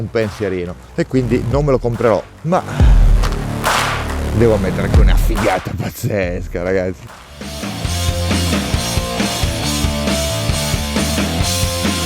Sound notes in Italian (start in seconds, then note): 6.4 Applauso